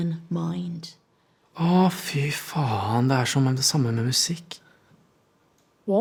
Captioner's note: speaks in Norwegian